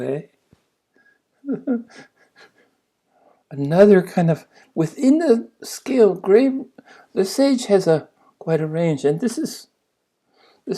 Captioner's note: laughs